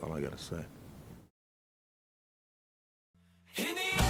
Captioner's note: silence